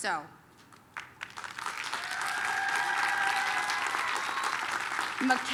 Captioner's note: applause, cheering